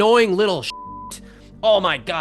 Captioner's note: beep